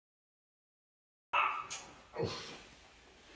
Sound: dog barks

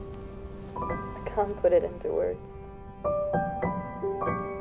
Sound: from tv

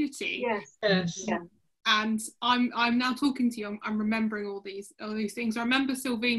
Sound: sounds of agreement

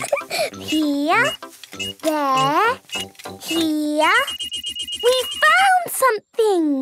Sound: giggling; beeping

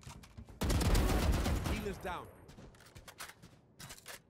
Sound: gun fires

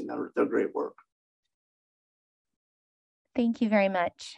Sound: silence

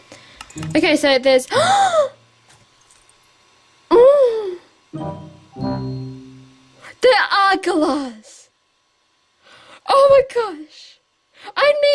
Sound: gasp

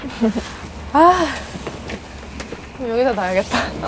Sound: sigh

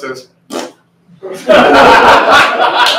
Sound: fart noise; laughter

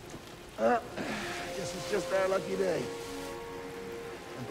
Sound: sighs

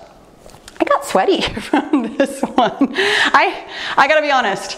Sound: laughing

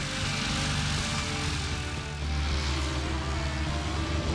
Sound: engines rumbling

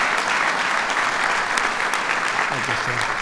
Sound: applause

